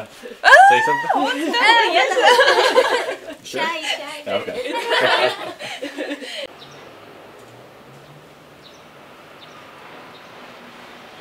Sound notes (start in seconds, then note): 0.5 squeals and laughter; 4.2 all laughing